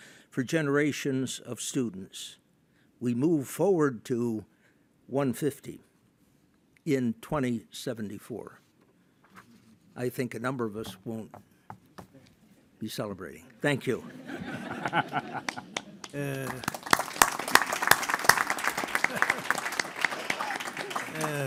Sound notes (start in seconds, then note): 13.9 audience laughing; 16.9 audience applauding